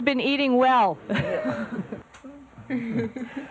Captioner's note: chuckling